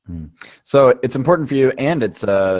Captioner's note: voiceover